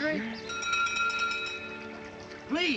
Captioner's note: door bell ringing